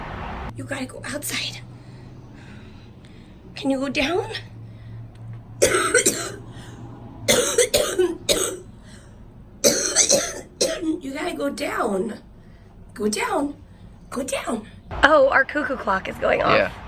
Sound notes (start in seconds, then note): 5.4 coughing